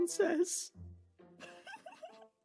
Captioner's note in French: Rigole